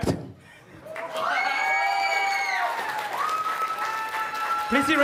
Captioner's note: cheers and applause